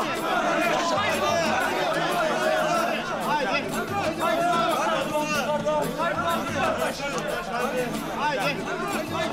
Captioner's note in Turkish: Tezahürat sesleri